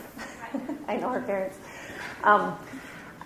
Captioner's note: chuckles